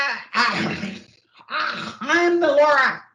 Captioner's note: coughs